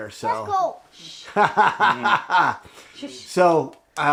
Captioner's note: laughter